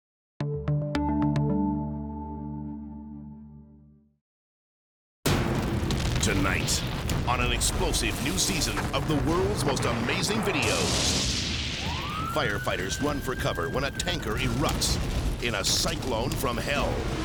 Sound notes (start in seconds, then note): 0.4 upbeat electronic music; 5.1 energetic dramatic music; 5.1 explosion pounds; 11.6 siren blares